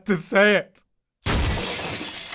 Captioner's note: quivering; crash